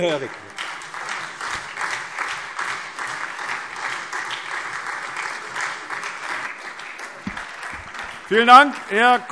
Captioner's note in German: Beifall Freie Demokraten, SPD und vereinzelt AfD